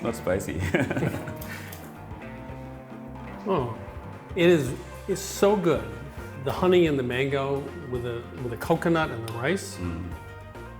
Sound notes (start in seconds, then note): 0.6 laughs